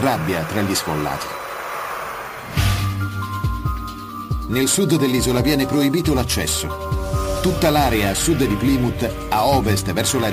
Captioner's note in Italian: Applauso